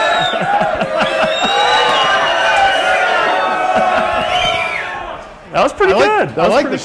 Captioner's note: laugh